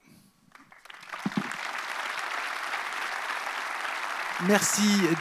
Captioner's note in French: Applaudissements